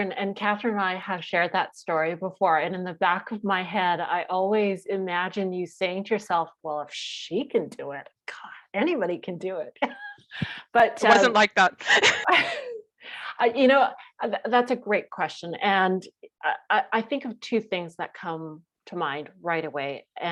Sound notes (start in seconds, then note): 11.0 laughs; 11.8 laughter